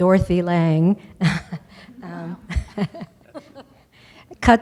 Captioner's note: laughter